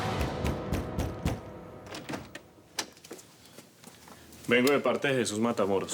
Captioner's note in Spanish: Toques fuertes en la puerta